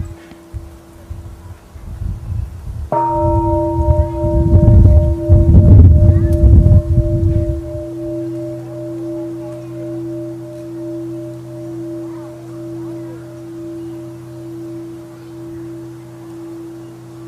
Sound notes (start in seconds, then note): 2.9 bell